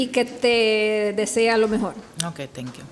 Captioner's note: speaks Spanish